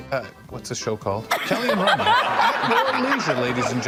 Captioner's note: attendees laughing